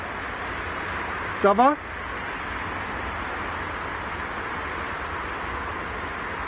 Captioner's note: speaks in foreign language